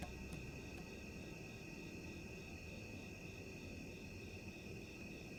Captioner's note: crickets chirping